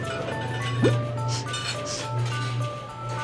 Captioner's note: sniffing